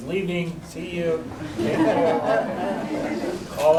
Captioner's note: laughter